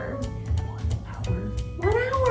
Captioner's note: whispers